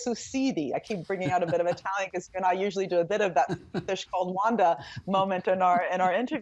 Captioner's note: speaking in italian